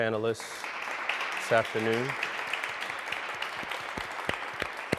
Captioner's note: audience applauding